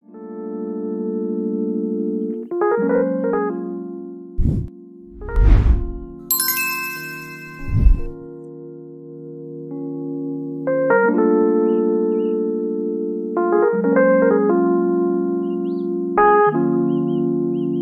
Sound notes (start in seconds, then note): 0.2 gentle upbeat music; 5.1 logo whooshes; 5.1 screen whooshes; 6.2 logo dings; 6.8 screen whooshes